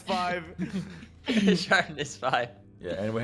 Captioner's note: laughs